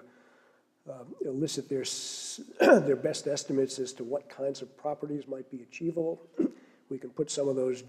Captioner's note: cough